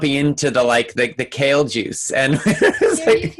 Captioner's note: laughing